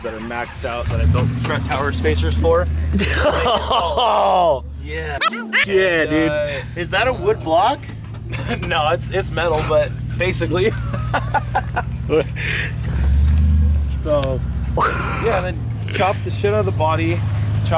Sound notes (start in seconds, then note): 3.1 loud laughing; 10.8 laughing